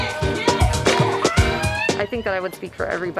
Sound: squeals

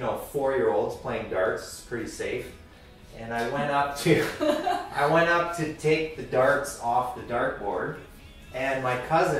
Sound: laughter

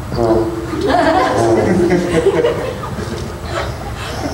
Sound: laughing

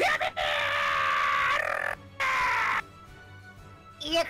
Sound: tongue roll

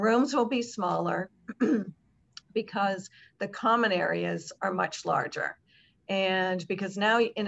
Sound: cough

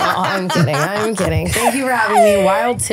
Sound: laughing

